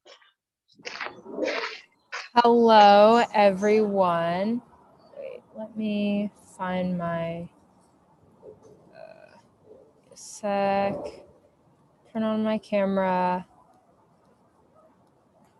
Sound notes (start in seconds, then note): 0.8 gravel crunching